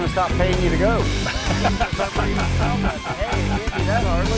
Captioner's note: all laugh